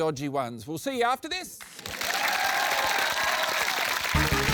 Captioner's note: cheering, applause